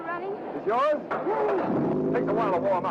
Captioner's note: engine starts up